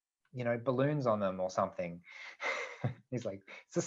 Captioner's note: laughs